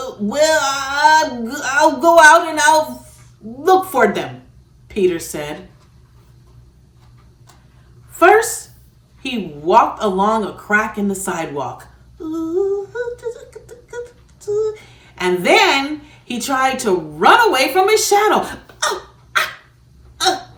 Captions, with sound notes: "Well, I'll go out, and I'll look for them," Peter said. First, he walked along a crack in the sidewalk... [humming] and then he tried to run away from his shadow... oh!... ah!... ee!...